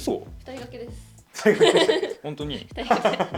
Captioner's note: laughs